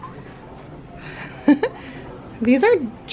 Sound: giggles

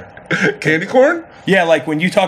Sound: laughs

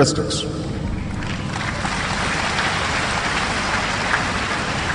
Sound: applause

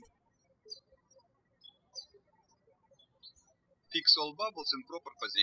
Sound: birds chirping

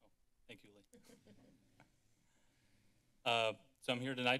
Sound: laughter

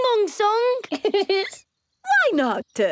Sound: giggles

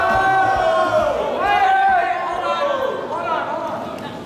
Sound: audiance Making Noise

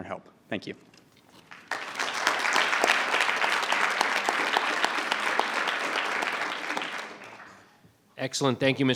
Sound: applause

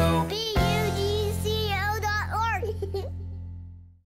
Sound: laughs

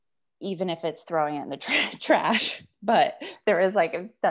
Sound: chuckles

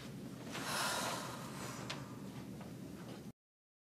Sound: sighs

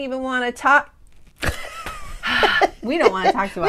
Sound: laughing

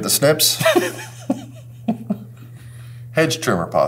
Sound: laughs

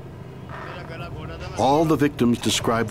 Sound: speaking in foreign language

